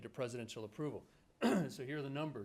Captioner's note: clears throat